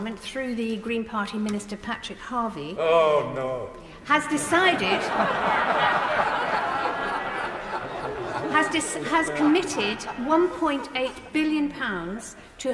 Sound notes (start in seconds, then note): 4.4 crowd laughing